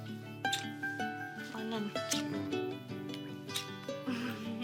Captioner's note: both giggle